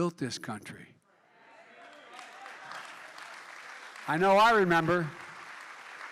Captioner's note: applause